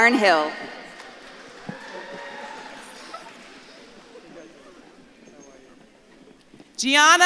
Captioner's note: audience claps and cheers